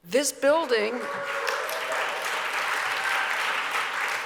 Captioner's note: audience cheers